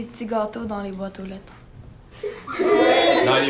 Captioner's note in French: rires